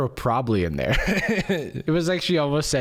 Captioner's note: laughs